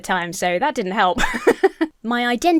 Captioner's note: laughs